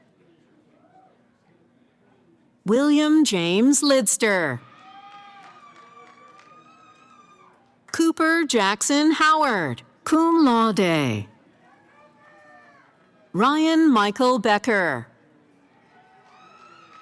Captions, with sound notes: >> William James Lidster. [ Cheering ] >> Cooper Jackson Howard, Cum Laude. Ryan Michael Becker.